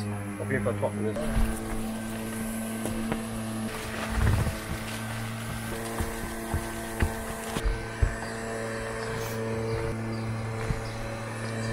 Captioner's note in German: monotones brummen